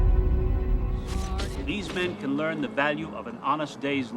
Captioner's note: cameras clicking